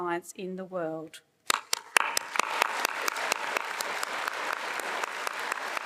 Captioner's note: attendees applauding